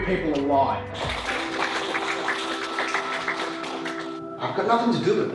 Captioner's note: applause